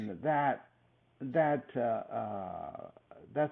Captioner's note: laughs